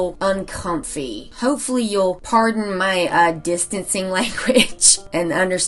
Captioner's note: laughs